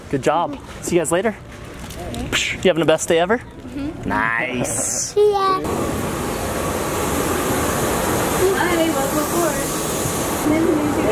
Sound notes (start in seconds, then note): 5.0 airplane whirring; 10.4 people chattering